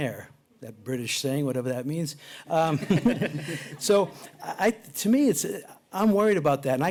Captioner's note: laughter